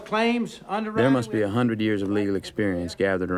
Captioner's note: Rudy Voiceover